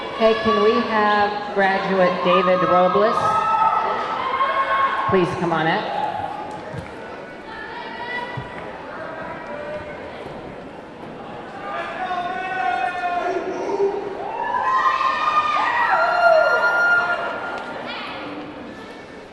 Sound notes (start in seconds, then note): 7.2 audience indistinctly chattering; 14.4 audience clamoring